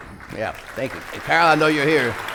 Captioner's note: applause